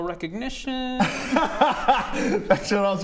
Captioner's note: laughs